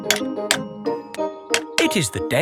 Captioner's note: clanking